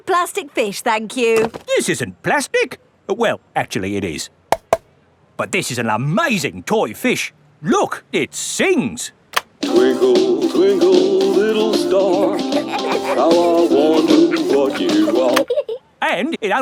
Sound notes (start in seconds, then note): 4.5 taps; 12.0 both giggling